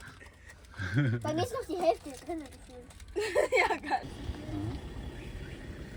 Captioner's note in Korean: 웃음